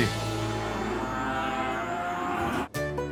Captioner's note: cattle mooing